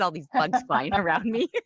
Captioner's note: laughs